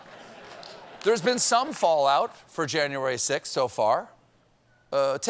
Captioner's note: laughter